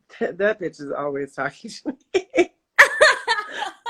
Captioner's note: laughs